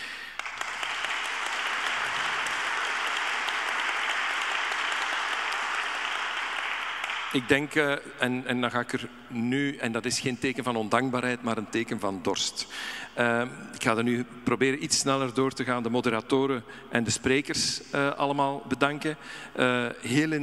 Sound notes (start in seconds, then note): 0.0 audience applauding; 7.0 speaking in Dutch